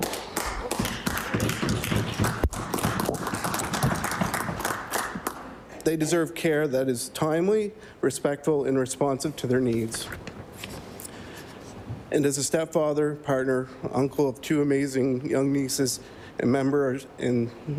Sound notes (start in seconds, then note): 6.3 applause